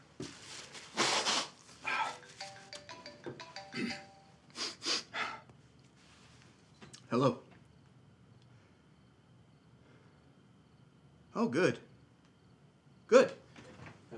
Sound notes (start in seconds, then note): 1.3 Isaac sniffles and sighs; 3.8 Isaac clears throat and sniffles